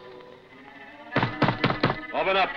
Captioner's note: knocking